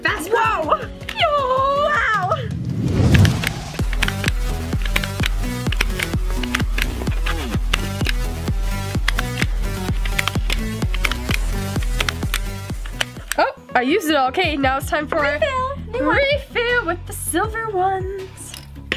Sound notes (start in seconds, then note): 3.1 blinging clicks; 3.1 spunky music